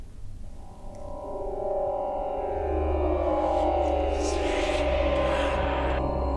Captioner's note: loud sonar tone